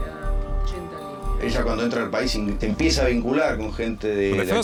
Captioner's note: Spanish spoken audio